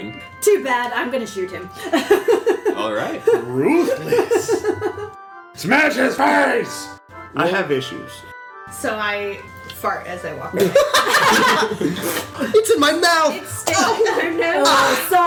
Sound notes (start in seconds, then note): 10.1 thppp; 10.6 all laugh